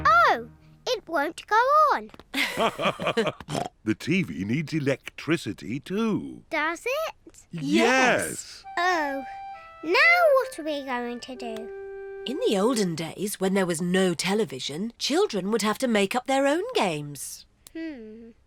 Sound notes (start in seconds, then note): 2.3 both laugh